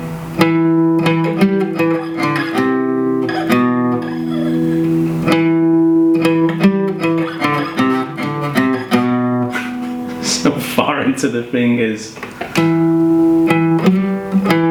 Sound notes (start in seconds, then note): 9.4 laughs; 12.2 plucking Guitar Strings